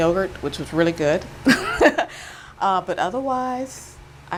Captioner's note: chuckles